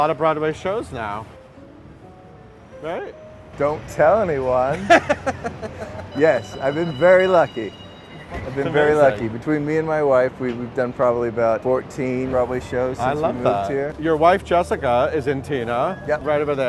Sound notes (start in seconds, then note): 4.6 laughing